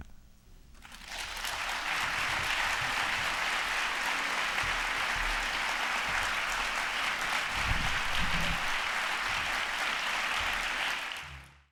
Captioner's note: applause